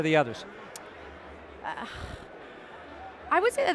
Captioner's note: sighing